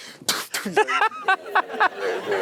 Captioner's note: Matthew & audience laughing